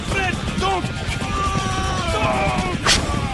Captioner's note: yelling